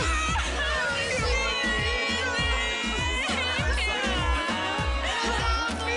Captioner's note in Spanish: Llanto colectivo